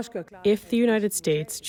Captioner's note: through translator